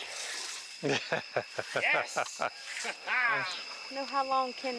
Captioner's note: camera operator laughing